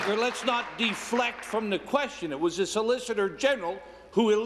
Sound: applause

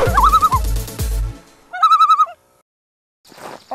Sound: loon call

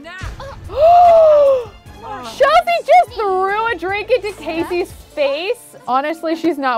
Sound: gasps

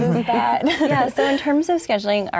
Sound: laughs

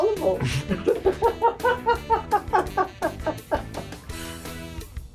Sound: laughs

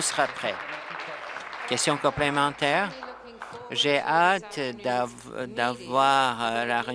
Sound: applause

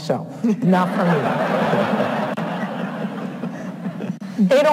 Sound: audience laughs

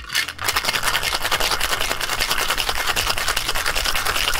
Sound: ice clattering

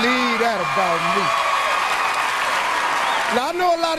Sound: audience cheers

